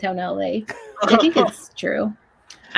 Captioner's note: laughing